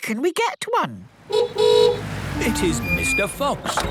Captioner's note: horn honking